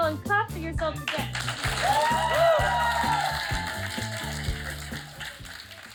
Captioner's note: crowd cheers and applauds